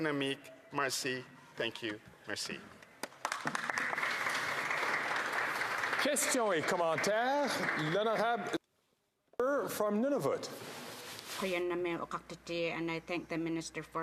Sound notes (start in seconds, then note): 9.4 some Applause